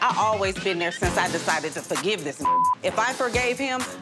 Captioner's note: beep